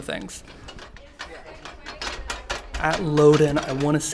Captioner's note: crank rotating